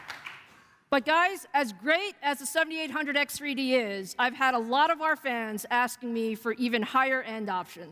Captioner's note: applause